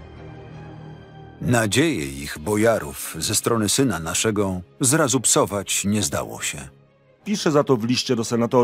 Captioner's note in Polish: Lektor